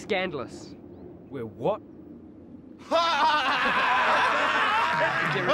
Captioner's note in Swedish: Locos skrattar